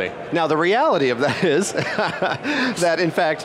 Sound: laughs

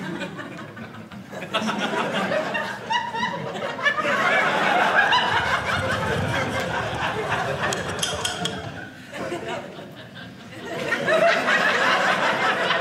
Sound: audience laughing

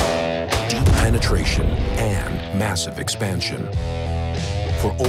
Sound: hard rock music; voiceover

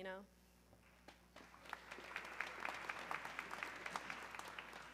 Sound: audience clapping

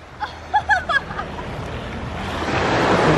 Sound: laughs

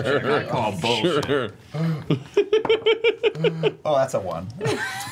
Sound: laughs

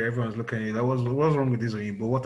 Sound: nigerian accent

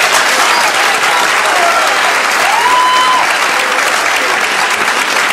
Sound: audience claps

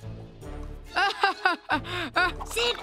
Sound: laughing

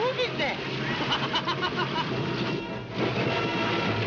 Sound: Edward laughing; dramatic music

